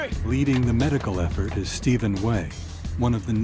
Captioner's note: voiceover